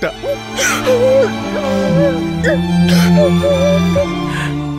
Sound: sobbing

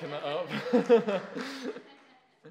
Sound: laughs

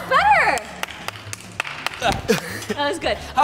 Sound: Nastia clapping

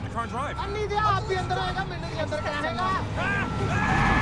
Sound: speaking in Punjabi

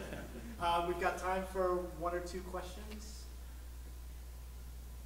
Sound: laughing; voiceover

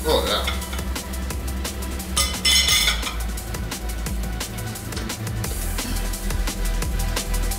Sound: intense music; cutlery clanking

